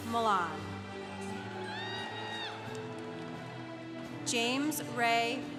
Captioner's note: congregation applauding